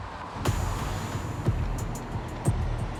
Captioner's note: car engines revving; dramatic music